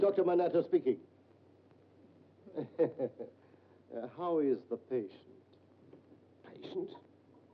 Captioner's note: chuckles